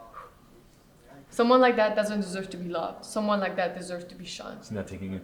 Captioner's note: takes breath